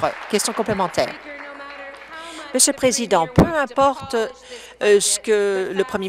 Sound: applause

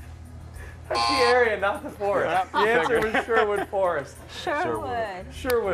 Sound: laughter

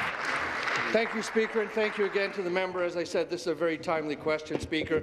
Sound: applause

